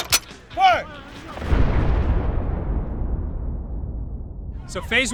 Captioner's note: metal clanking; cannon fire booming